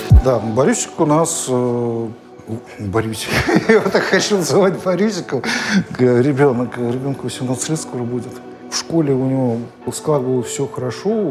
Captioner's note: laughing